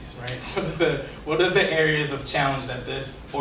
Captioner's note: laughs